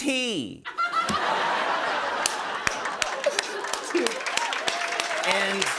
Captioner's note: laughter